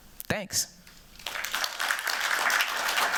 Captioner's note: applause